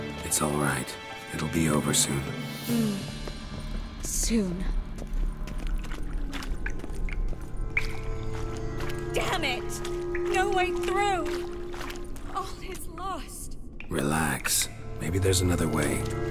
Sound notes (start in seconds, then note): 11.4 dejectedly